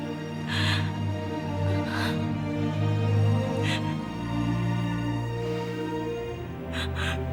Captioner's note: slow soft music; weeping